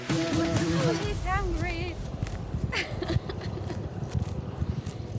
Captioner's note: laughing